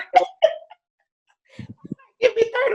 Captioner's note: laughs loudly